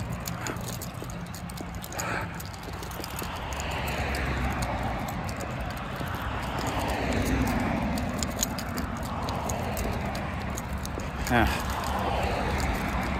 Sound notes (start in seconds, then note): 1.5 is heavily breathing